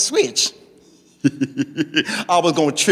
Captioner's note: laughing